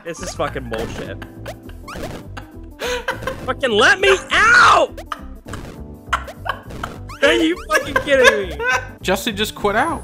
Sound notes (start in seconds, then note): 6.1 laughing